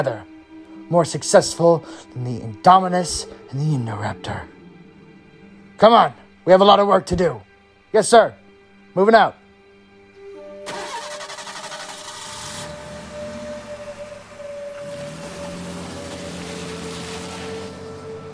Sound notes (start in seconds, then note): 10.6 engine starts